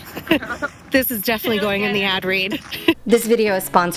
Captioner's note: hoots